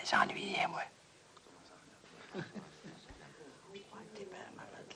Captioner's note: people faintly talking